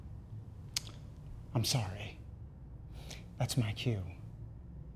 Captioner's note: clicks tongue